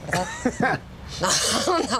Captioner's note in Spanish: Risas